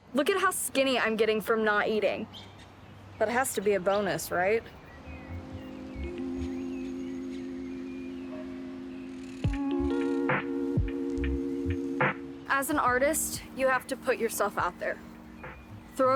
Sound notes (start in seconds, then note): 5.6 birds chirp; 6.6 somber music